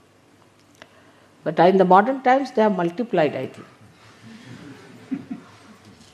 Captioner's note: laughter